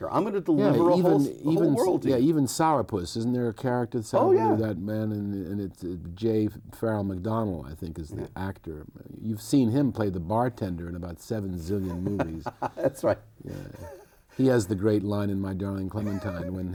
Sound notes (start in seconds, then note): 13.4 laughs